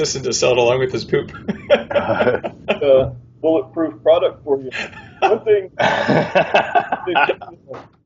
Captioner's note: laughs